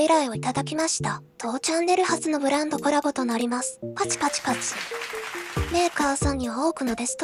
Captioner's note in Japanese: パチパチパチ👏